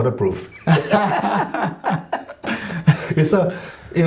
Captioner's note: laughing